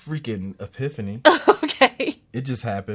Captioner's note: laughs